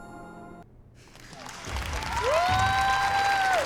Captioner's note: applause and cheering